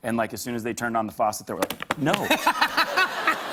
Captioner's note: laughter